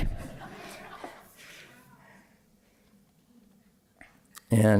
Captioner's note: laughter